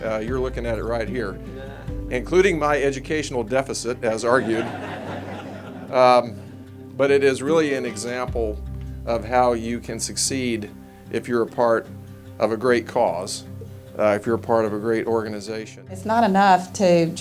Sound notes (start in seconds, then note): 4.3 audience laughing